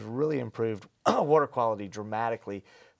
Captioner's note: coughs